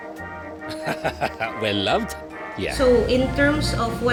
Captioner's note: laughs